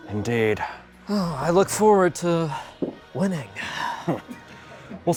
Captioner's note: sighs; scoffs